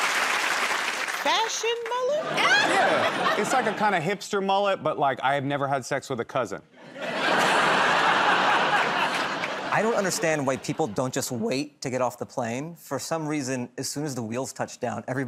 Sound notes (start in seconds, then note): 6.8 laughter